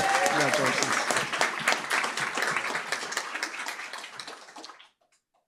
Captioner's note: applause